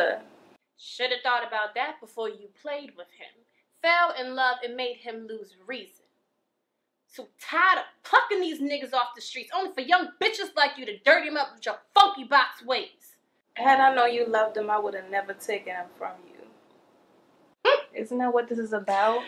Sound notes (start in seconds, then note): 16.2 Fiona laughing